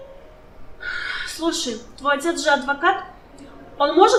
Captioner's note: sighs